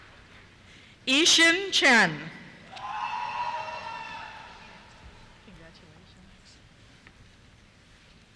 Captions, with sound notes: Yixin Chen. (cheers) Congratulations.